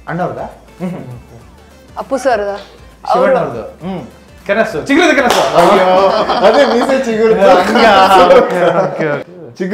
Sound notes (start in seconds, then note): 5.7 laughing